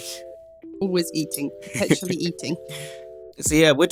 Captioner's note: laughs